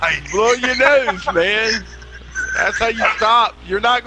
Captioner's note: laughter